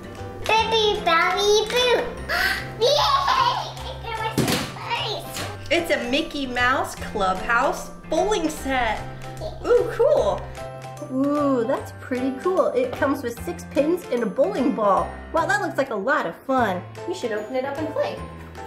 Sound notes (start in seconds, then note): 2.3 gasp